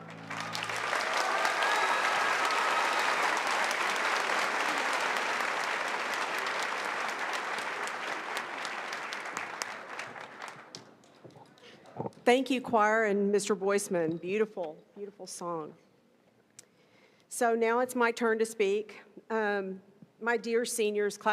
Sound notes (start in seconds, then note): 4.7 applause